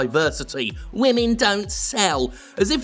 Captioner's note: mocking